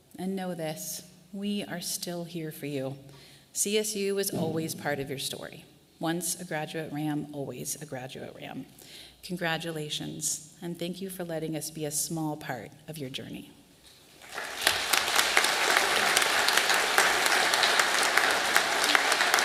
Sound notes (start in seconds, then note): 14.0 audience applauding